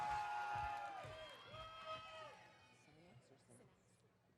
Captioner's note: audience cheering